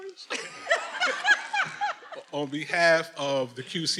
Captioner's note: everyone laughing